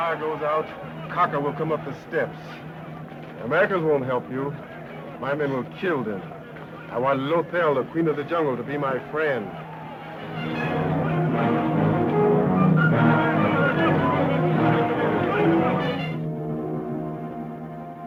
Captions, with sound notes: - When the fire goes out, croca will come up the steps. Americans won't help you. My men will kill them. I want Lothel, Queen of the Jungle, to be my friend. (suspenseful orchestra music) (people yelling)